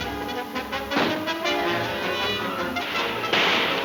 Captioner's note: gun shooting; guns firing